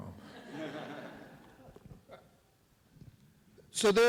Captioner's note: audience laughs